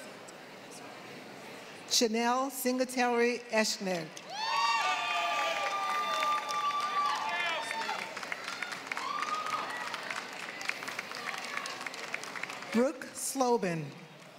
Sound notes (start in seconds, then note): 5.2 applause